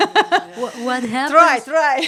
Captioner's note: laugh